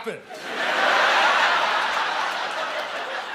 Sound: laughter

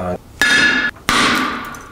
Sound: hammer clangs on screen; hammer smashes screen

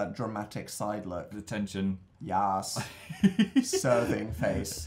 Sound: laughs

